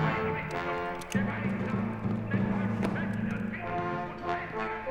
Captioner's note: speaking german